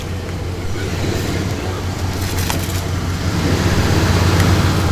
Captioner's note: car engine revs